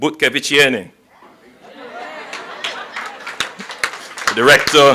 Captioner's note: applause